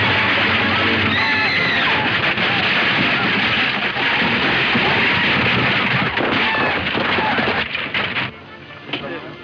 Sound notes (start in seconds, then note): 1.1 Lucy screams; 1.7 wagon clattering